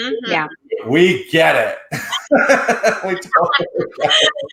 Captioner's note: laughs